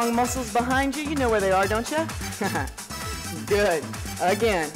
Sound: laughs

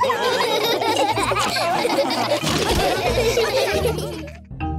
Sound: laughter

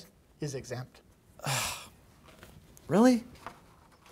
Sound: sighs

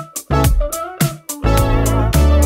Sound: none

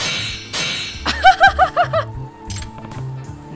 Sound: chuckles

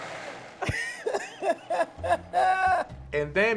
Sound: laughing

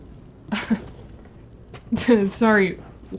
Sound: laughter

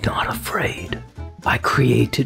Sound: soft talk

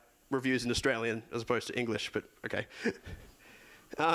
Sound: laughs

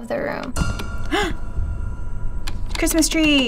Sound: gasps

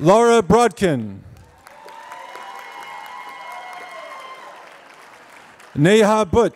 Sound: applause

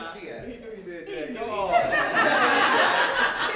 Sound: laughter

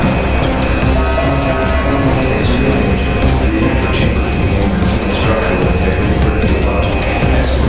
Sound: announcement Chime

